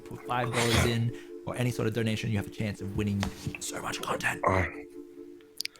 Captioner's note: whispered